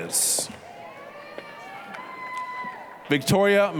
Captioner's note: applause, cheering